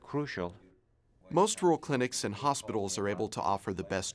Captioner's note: voiceover